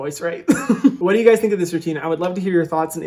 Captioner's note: laughing